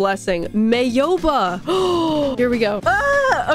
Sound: gasp

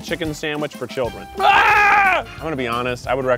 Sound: screams

